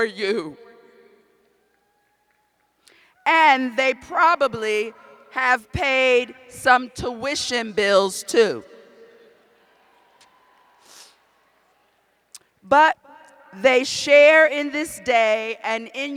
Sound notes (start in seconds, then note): 8.2 laughter; 9.5 cheers